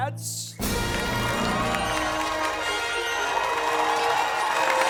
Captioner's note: cheers, applause and musical fanfare